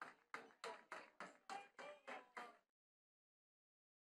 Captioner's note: attendees clapping